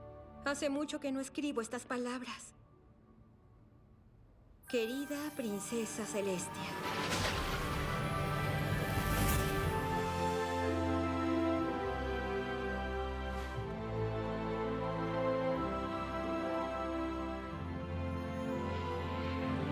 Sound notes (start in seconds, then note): 6.4 whoosh; 9.5 majestic theme